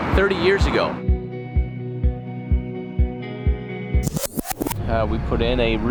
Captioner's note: scenes whooshing; upbeat music